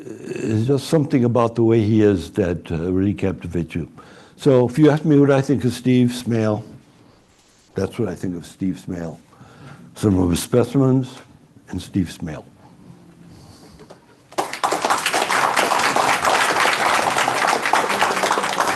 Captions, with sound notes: There's just something about the way he is that really captivates you. So if you ask me what I think of Steve Smale, that's what I think of Steve Smale-- some of his specimens and Steve Smale. [APPLAUSE]